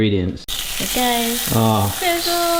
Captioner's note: bacon sizzles